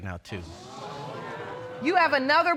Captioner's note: audience exclaim